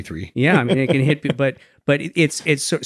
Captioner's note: laughs